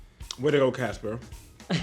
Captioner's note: laughter